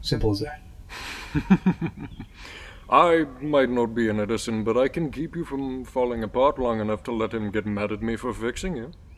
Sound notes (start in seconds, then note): 0.9 Deck chuckles